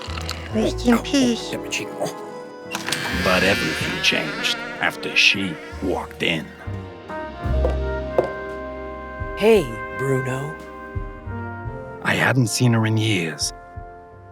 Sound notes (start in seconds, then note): 2.7 door creeks open